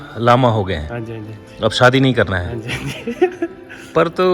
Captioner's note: laughter